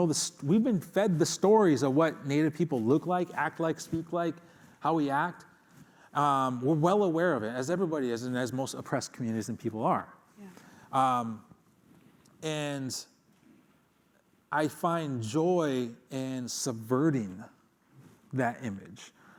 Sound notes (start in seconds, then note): none